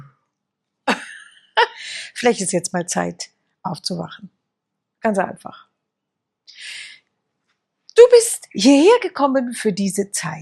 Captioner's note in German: gelächter